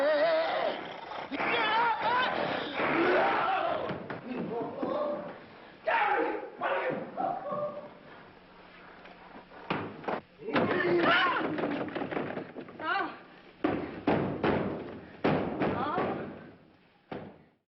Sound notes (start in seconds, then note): 0.0 mumbling incoherently; 5.8 screams; 9.4 banging